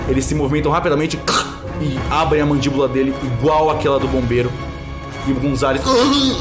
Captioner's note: sound of bones breaking; noises of agony